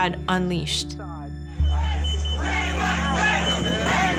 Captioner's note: crowd chanting